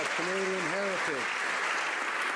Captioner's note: some Applause